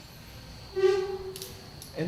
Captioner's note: chair scoots